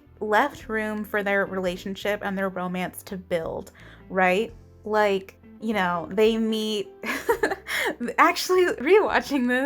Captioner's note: laugh